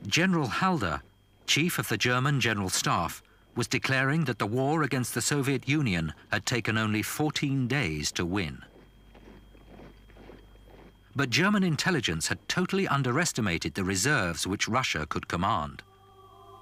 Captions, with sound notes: General Halder, Chief of the German General Staff, was declaring that the war against the Soviet Union had taken only 14 days to win. (boots thudding) But German intelligence had totally underestimated the reserves which Russia could command.